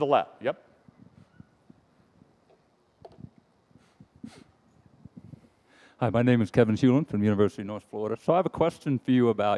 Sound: sniffing

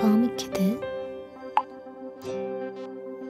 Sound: bubble tone

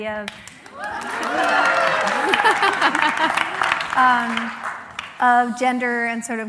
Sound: applause

